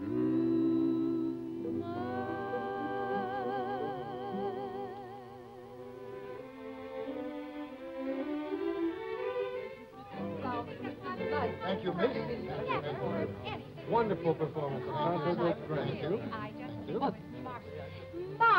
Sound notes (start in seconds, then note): 10.7 crowd chatter